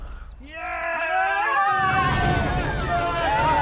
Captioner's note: all cheer